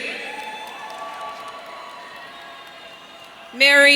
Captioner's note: audience cheering